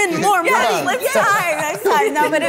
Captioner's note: everyone laughs